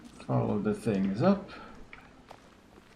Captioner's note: none